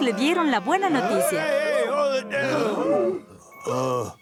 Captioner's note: crowd chatter